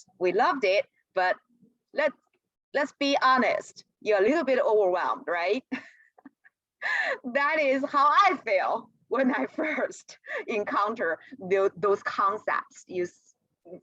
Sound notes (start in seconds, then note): 5.7 laughter